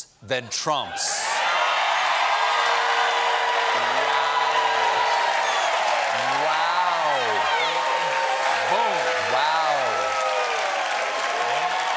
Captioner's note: cheers and applause